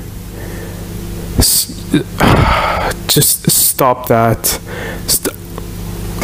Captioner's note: sigh